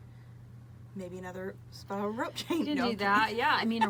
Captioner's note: laughs